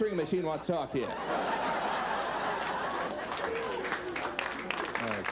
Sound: audience laughing; audience clapping

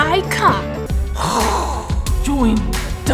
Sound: DarthVader breathes

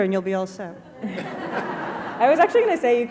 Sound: audience laughing

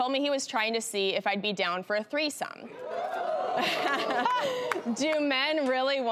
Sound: laughs

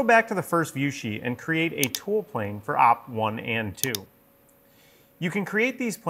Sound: mouse clicking

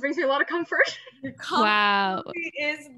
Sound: laughs

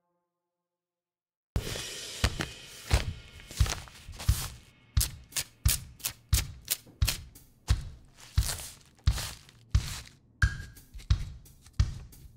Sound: rhythmic envelope handling and sticker peeling

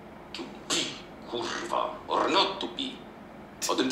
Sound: foreign language

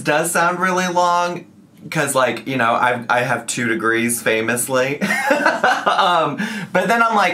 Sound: laughs

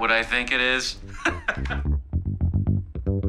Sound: laughing

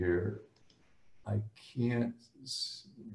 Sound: speaks faintly

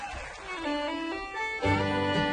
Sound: cheers and applause

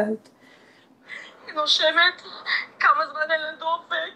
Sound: voice in Hebrew

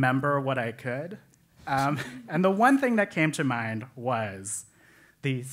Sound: laugh

